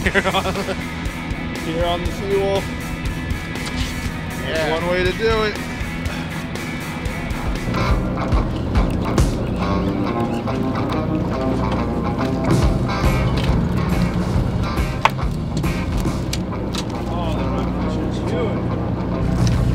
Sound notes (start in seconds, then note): 0.0 laughs; 9.0 fishing rod reels